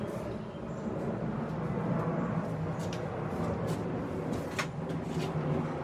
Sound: roaring airplane engine

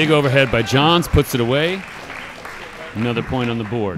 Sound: audience applauding

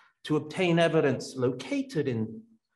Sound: none

